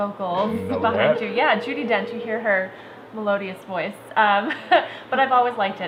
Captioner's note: laughs